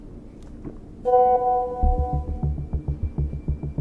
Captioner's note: notification sound